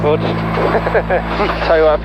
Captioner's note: laughing